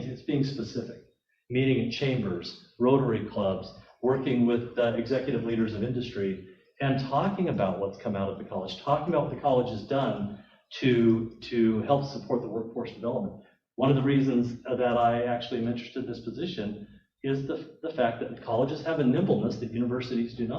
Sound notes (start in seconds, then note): none